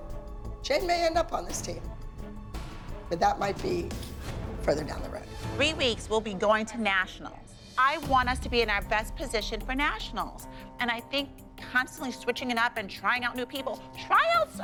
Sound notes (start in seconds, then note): none